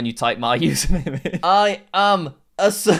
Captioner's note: giggles